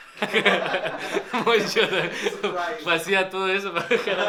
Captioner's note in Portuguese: risadas